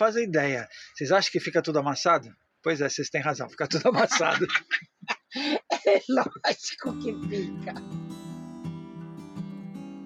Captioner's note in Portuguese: risadas